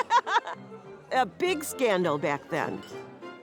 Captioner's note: joyful chortle